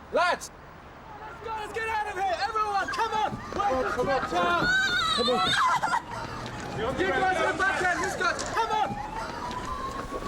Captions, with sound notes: Lads. Come on, let's go. Let's get out of here. Everyone, come on. (yelling) (crying) Come on!